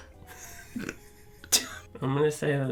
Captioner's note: laughter